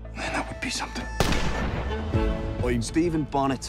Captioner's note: gunfire